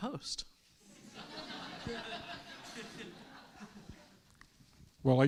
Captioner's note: students laughing